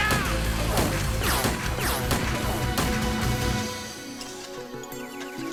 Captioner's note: gun fires; slow guitar music